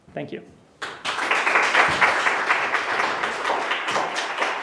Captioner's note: applause